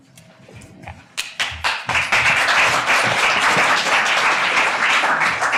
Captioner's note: audience applauding